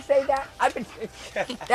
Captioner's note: laughing